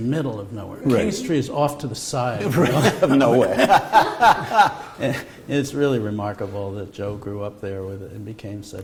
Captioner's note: laughter